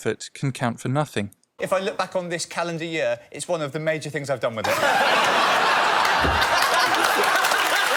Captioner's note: laughter